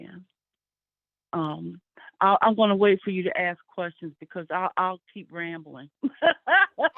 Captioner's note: laughs